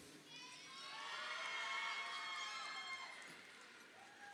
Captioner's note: crowd cheering